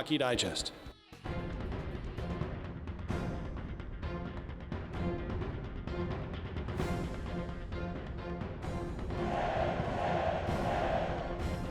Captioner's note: cheering